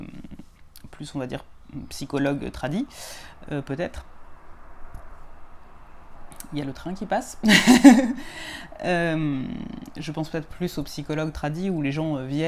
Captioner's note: there's the train going